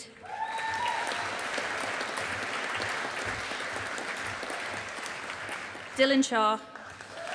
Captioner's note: audience applauding